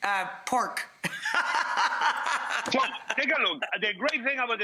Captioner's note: laughs